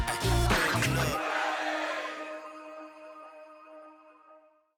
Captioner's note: audience cheering